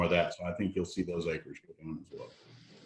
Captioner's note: audio is choppy